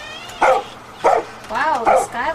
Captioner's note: dog barking